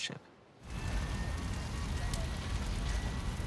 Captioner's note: sirens wailing in distance